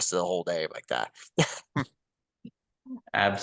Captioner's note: laughter